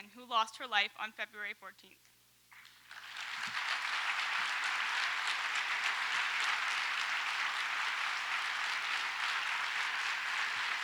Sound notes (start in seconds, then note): 2.6 audience applauds